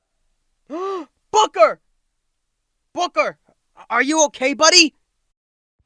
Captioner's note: gasp